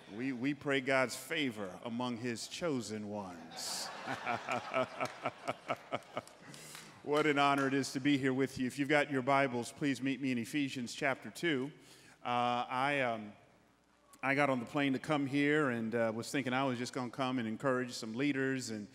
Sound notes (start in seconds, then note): 3.5 laughing